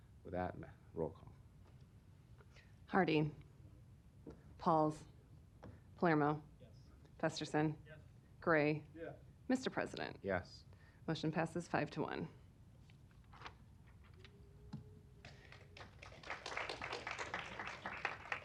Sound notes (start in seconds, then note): 15.2 applause